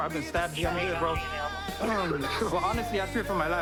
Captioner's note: coughs